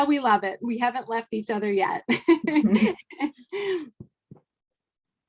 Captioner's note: laughing